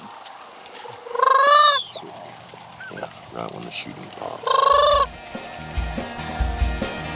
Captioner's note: crane calls